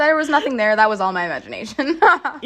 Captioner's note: laughter